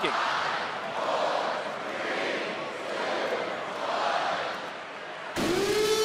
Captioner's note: crowd counts